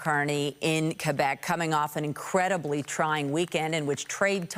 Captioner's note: applause